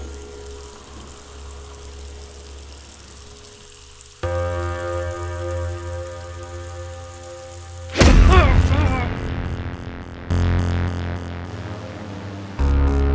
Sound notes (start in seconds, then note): 0.1 water rushing; 4.4 tense music; 8.0 thudding; 8.1 grunting; 10.4 tense music